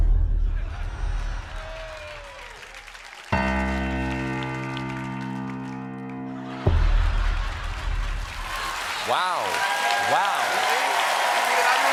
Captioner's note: applause